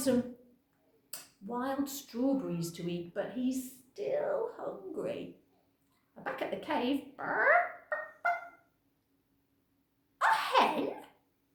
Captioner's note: cluck, cluck